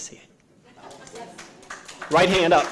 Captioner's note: audience applauding